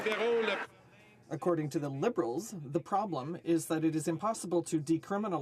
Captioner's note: some Applause